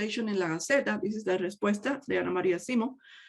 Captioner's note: speaks in native language